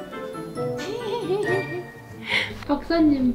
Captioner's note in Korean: 웃음